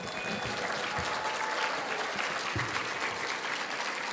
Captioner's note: audience applauding